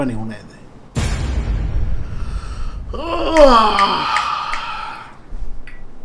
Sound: yawn

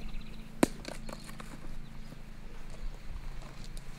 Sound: thudding

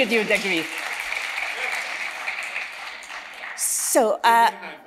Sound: audience applauding

